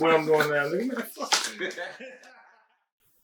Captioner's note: everyone laughing